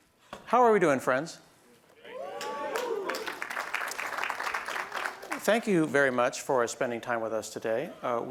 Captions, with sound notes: How are we doing, friends? [ Cheers ] Thank you very much for spending time with us today.